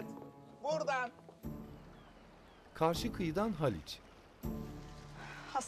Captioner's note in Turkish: Martı sesleri